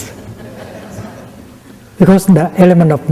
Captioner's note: laughter